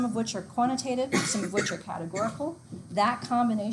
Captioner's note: student coughs